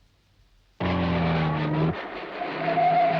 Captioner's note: car engine roaring; tires screeching